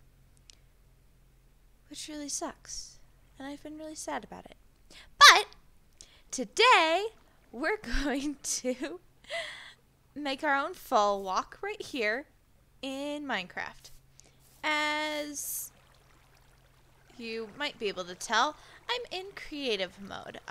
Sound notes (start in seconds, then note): 8.7 giggles